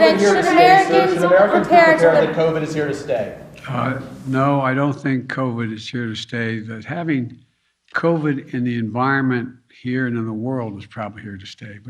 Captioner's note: yelling